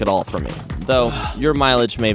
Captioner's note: dramatic sigh